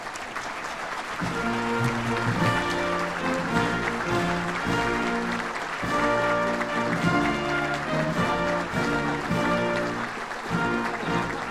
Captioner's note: applause